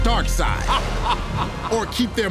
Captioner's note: evil laughter